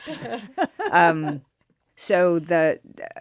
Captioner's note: laughter